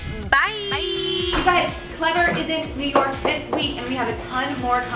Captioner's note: whoosh